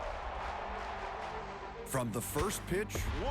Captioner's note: crowd chant